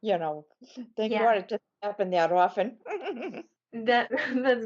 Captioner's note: laughing